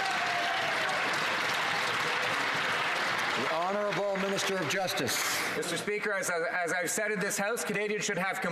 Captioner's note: some Applause